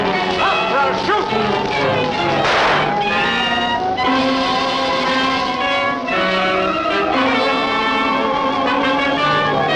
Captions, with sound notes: Stop or I'll shoot! (dramatic music) (gun firing)